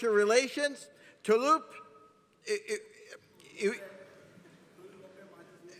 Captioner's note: stutters